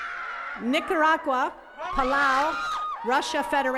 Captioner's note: attendees cheering